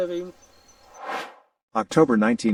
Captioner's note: air swooshes